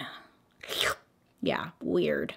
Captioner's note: slurp